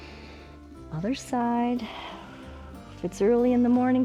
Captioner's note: inhales; exhales